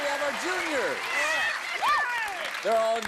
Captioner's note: cheering